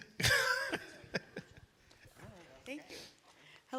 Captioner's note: laughing